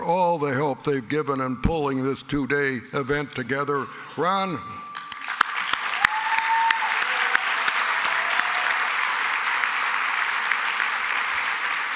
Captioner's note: applause